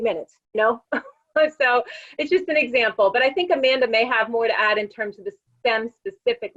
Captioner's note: laugh